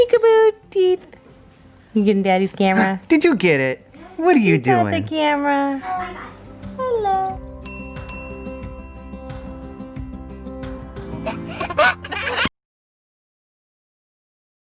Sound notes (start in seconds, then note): 7.6 clinking; 11.2 laughing